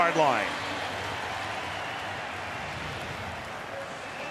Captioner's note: crowd cheering